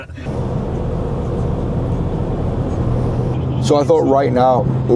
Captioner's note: car engine roaring